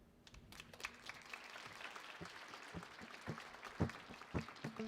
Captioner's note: audience applauding